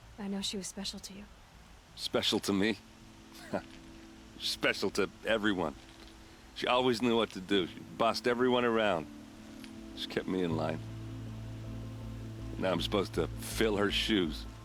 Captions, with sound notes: I know she was special to you. Special to me? (laugh) Special to... ...everyone! She always knew what to do. She... ...bossed everyone around. She kept me in line. Now I'm supposed to... ...fill her shoes...